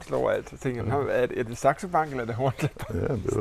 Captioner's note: giggles